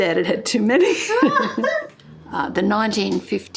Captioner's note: laughter